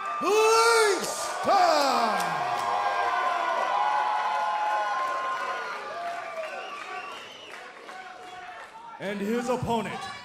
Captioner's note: crowd cheering